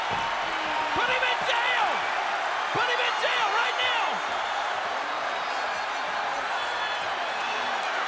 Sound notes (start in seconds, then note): 4.1 crowd cheering